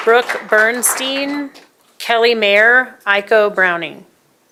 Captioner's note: applause